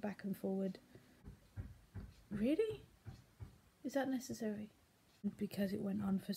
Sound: banging

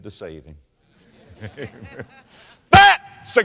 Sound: audience laughter

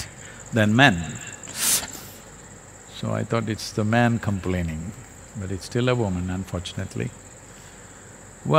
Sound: laughs

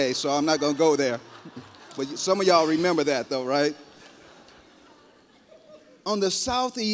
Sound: laughter

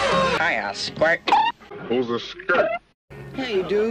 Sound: sudden deep voice

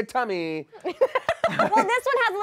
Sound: laughing

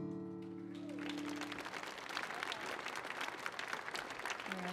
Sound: gentle guitar music; audience applauding

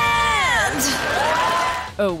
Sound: cheering

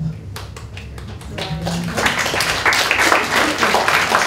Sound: applause

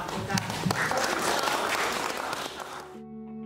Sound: audience claps

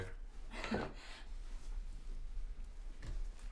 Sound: chuckle

